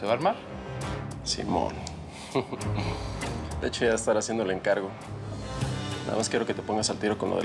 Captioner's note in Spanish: risas